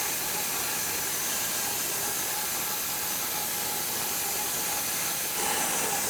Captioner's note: saw humming continues